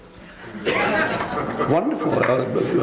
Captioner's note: audience laughing